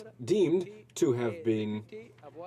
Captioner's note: speaking in french